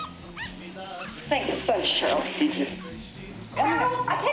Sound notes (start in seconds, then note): 3.6 yipping